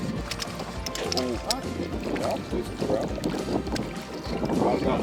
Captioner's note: men chattering